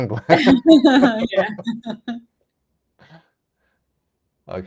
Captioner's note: laughing